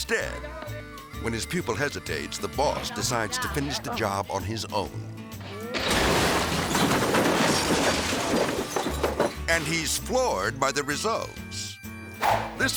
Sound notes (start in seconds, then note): 5.3 rubble clattering; 5.4 bricks crashing